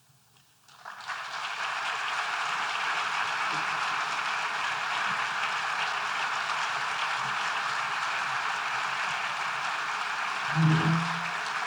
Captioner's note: applause